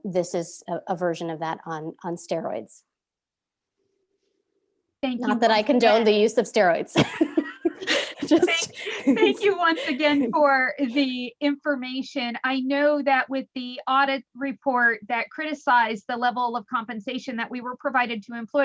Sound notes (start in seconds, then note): 7.0 laughing